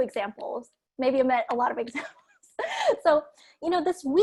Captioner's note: chuckles